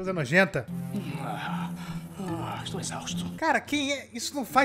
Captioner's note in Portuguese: boceja